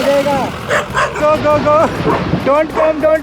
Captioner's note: dog barking